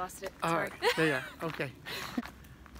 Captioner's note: laughs